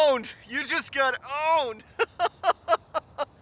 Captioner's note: laughs